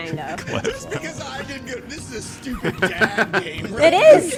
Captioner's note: laughing